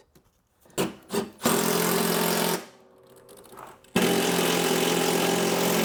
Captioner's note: drill engine roaring